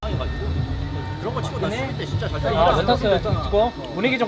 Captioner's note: BuZz